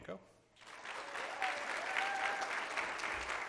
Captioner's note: applause